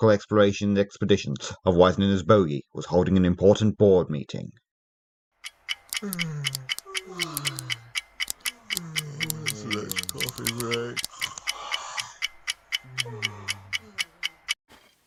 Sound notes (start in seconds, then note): 5.4 clock ticking, yawns, pen clicks; 11.2 yawn